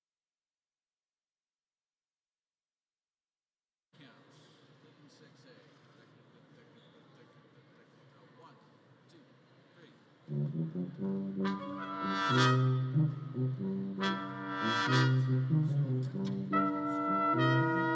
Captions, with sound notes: Count. (conductor faintly speaking) One, two, three. (lighthearted music)